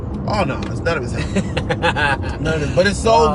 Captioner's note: laughs